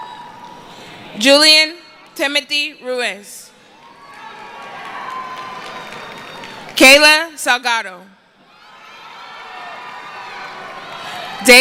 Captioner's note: cheering; applause